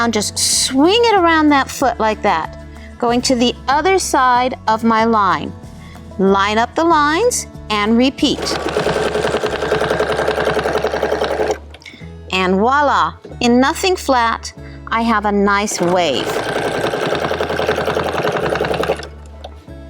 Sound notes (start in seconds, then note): 8.3 machine whirring; 15.7 machine whirring